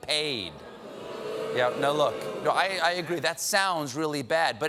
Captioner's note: booing